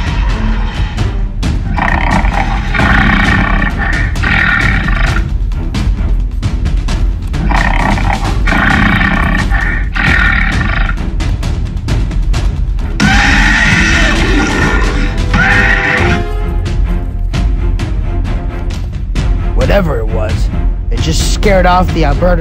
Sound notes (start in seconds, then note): 1.6 Albertosaurus growling; 13.0 Indominus Rex roaring in the distance